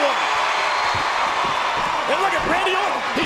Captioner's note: crowd cheering